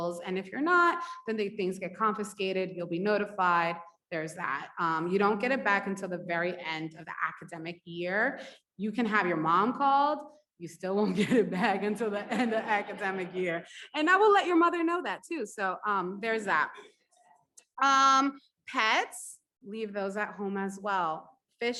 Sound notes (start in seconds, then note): 11.5 audience laughs; 11.7 laughs